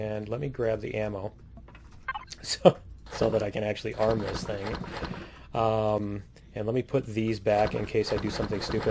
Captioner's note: laughs